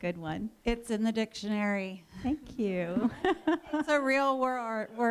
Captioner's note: laughter